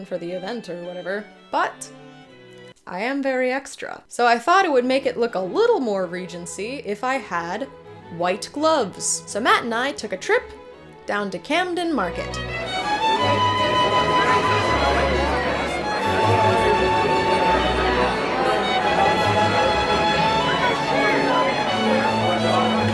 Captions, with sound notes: for the event or whatever, but I am very extra. So I thought it would make it look a little more Regency if I had white gloves. So Matt and I took a trip down to Camden Market. (classical music) (crowd chatters)